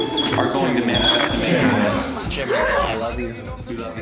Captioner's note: laughs